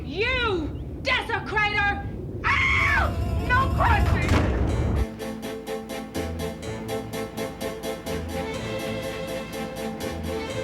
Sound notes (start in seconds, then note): 2.4 screaming; 7.7 upbeat violet playing